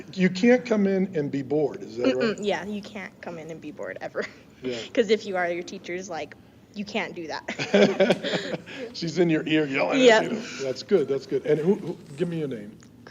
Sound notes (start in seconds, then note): 7.5 laughing